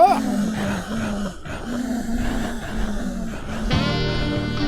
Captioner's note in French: Grognements